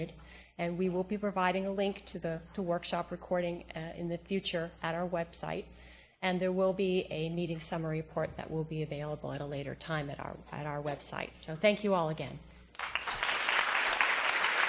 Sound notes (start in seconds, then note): 12.7 applause